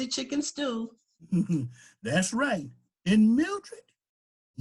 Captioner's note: chuckles